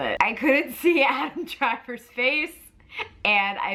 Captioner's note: none